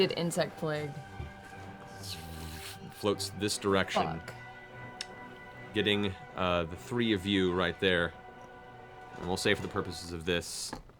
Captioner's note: buzzing